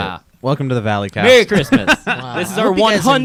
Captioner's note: laughing